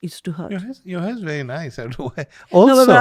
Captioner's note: laughs